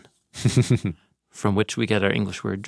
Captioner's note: chuckles